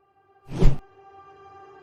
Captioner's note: whoosh